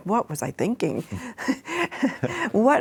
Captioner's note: chuckles